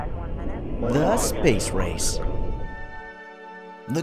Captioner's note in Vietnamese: Giọng ồm trong radio